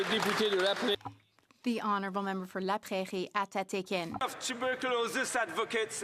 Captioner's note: applause